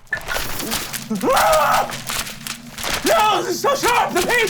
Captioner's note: pages fluttering; screaming